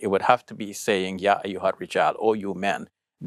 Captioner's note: speaks Arabic